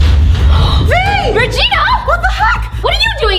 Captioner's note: gasps